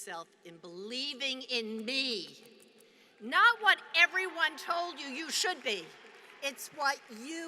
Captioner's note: applause